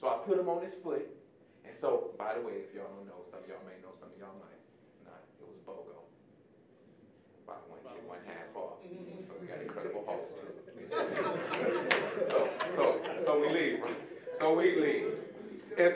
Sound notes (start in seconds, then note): 9.0 audience laughing